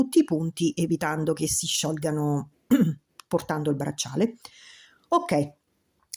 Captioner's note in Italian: schiarire la voce